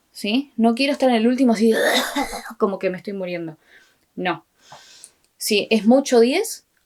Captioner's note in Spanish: sonidos de ahogo, muerte y destrucción